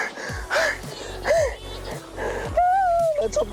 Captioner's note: crying